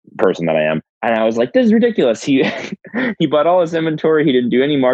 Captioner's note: laughs